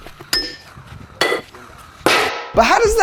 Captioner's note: balls clacking